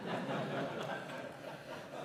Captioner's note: laughter